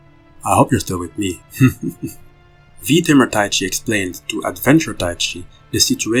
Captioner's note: laughs